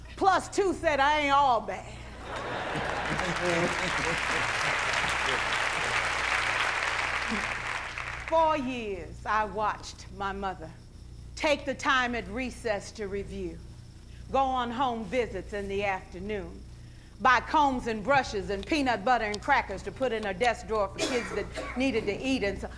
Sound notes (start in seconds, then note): 2.3 applauding